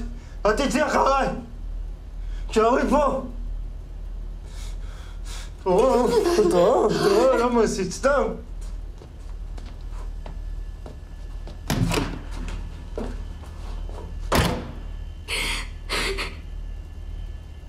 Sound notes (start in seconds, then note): 11.4 door opening, closing; 15.3 sobbing